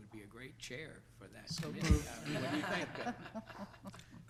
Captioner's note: laughs